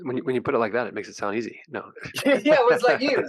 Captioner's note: laughing